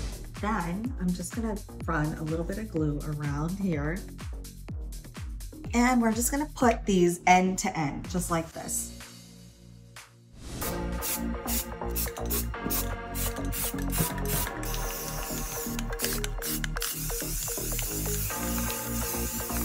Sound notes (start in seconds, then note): 10.4 upbeat music; 11.0 spray paint spraying